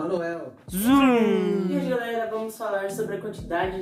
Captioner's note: sound effect made with mouth